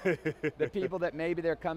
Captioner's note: laughing